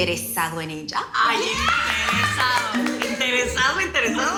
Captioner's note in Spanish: Aplausos y algarabía